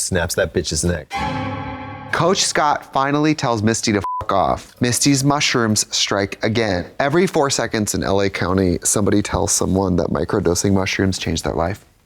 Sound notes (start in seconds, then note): 1.1 eerie tone; 4.0 beep